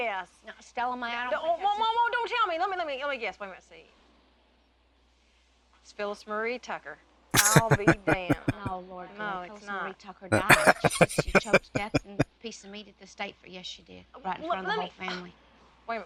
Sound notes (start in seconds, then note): 7.3 chuckling; 10.3 laughing